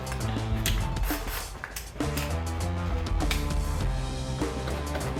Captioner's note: drilling